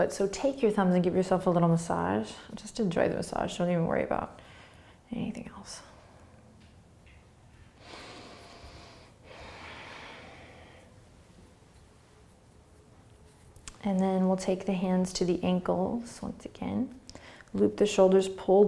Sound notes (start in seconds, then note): 7.8 breathing